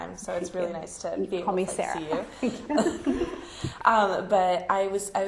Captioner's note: chuckles